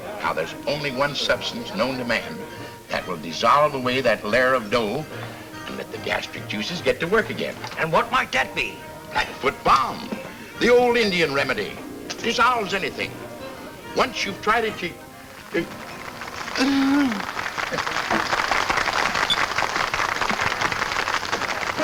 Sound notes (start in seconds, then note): 15.0 whimpers; 17.9 patrons clap